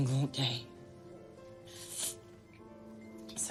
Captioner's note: sniffling